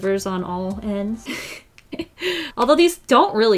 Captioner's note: laughs